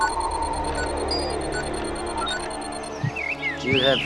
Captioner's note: beeping